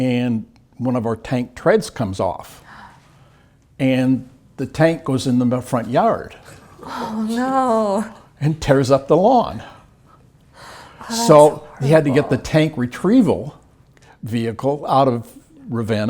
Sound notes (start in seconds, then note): 6.6 laugh